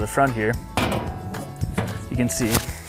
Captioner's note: seed box lid clangs